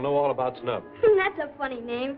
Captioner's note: laughs